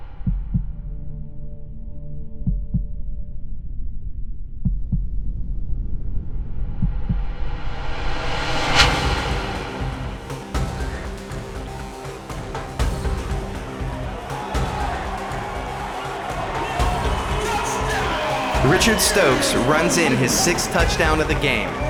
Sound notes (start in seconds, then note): 0.1 hearbeat Sound; 2.4 heartbeat Sound; 4.5 heartbeat Sound; 10.1 intense Music; 14.5 intense Music Continues; 16.4 crowd Roars